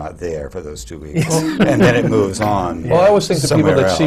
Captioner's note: laughter